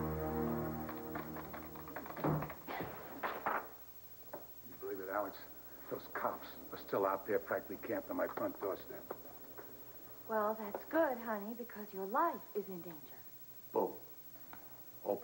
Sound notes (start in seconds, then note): 4.4 door closes